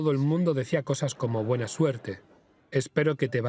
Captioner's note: audience laughs